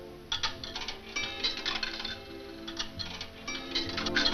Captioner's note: coins rattling